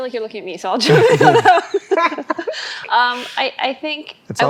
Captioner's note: all laughing